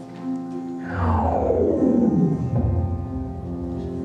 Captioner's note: vortexy sucking noise